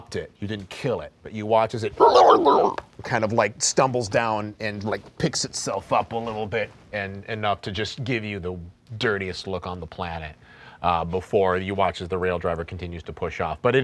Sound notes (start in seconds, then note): 2.0 monster growling